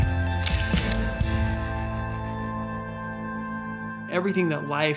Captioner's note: camera shutter clicks